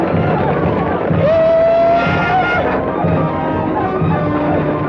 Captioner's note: Red Hawk howls